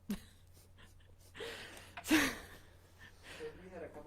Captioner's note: laughing